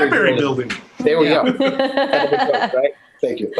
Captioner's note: everyone laughing